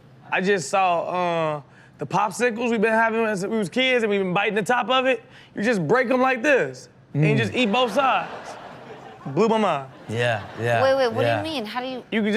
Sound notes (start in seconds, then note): 7.4 audience laughs